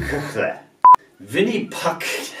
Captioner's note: beep